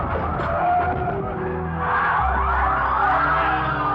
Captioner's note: sirens wailing